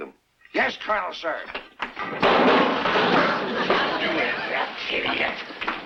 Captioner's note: object clattering